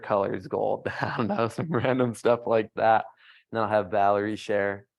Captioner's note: laughs